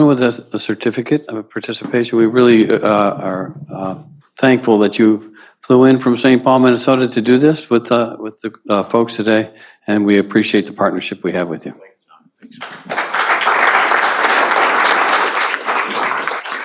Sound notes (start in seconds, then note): 12.5 applause